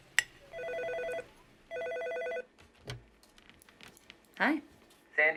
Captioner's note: phone ringing